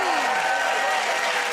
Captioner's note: cheers and applause